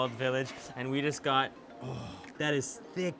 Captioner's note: sighs with delight